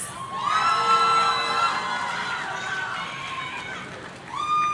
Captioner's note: audience cheering